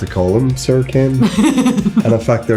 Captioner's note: laughs